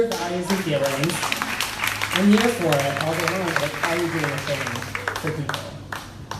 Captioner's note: crowd applauding drowns out the speaker